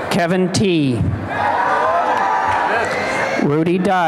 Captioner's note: applause and cheering